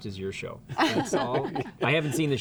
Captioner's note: laughing